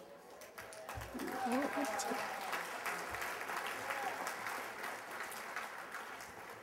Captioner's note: applause